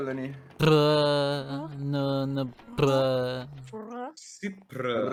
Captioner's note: furry noises!!!!!